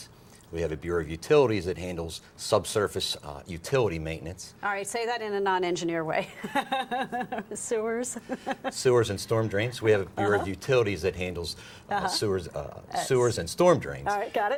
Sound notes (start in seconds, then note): 6.4 laughs